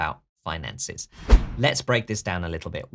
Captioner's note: air whooshing